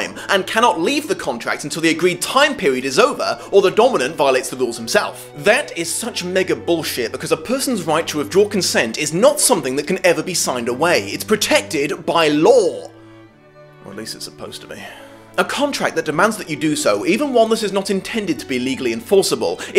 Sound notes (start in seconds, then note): 13.3 quietly